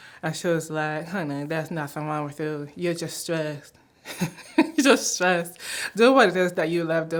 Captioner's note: laughter